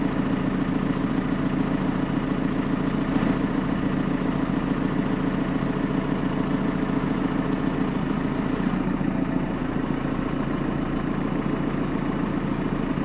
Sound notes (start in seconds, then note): 0.7 truck rumbling continuously